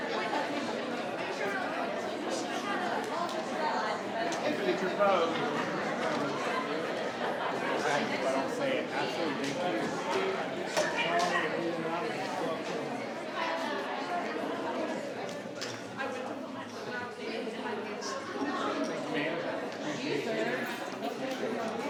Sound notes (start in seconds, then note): 15.0 group chattering